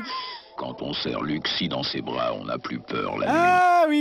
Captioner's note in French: voix grave inquiétante